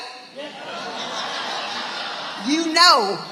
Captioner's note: audience laughing